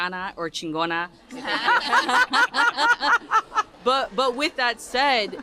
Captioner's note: laughter